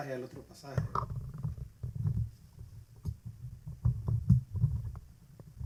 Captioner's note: randomly adjusting mic noises